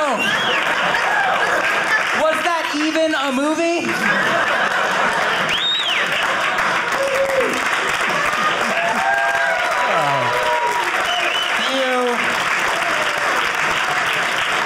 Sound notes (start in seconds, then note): 0.0 audience laughing; 4.0 audience cheering